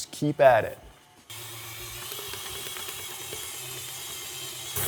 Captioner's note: mixer whirring